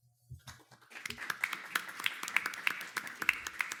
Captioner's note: audience clapping